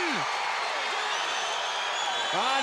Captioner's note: crowd cheering